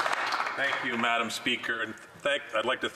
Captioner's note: some Applause